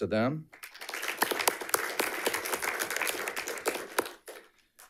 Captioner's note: audience applauding